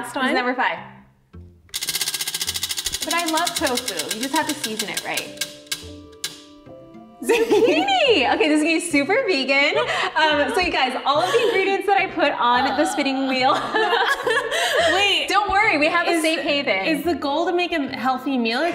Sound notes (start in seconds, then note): 1.7 wheel clicking; 9.7 laughing; 13.3 both laughing